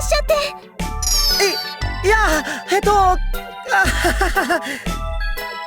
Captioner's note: awkward laugh